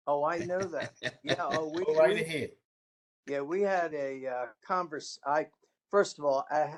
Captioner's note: laughter